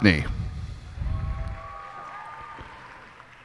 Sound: cheers and applause

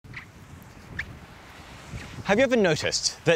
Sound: sand squeaks

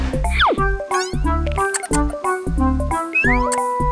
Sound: rubber duck squeaking

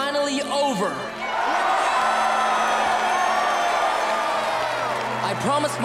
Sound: cheering

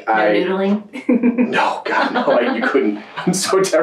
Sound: laughs

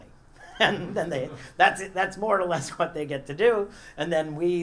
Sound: laugh

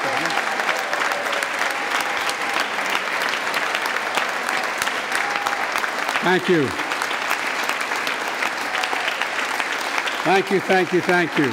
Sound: applause

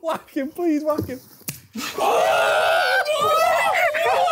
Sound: yelling

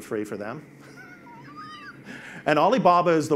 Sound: laughs

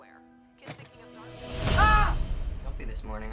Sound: screaming

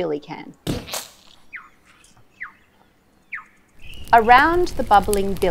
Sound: mud thunks

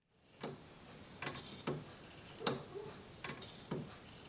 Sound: clock ticking

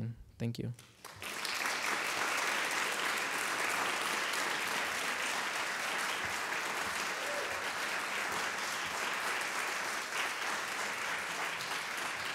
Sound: audience clapping

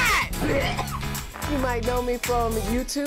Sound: coughing

